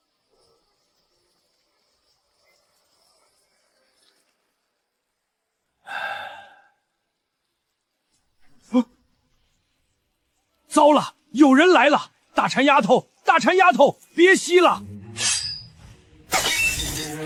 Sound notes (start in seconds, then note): 5.8 sigh